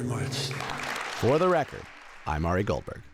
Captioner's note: applause